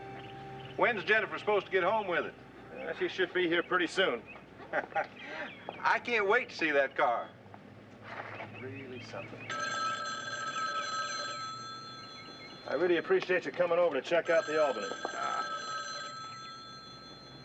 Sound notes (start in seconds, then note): 4.6 Larry chuckles; 9.4 phone ringing